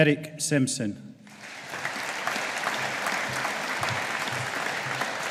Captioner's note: audience applauding